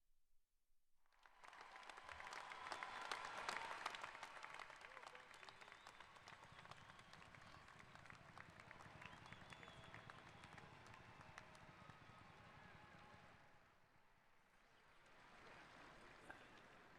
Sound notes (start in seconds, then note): 0.6 applauding